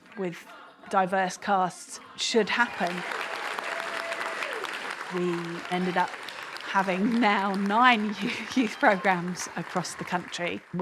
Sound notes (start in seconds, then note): 3.1 cheering, applause; 6.8 chuckles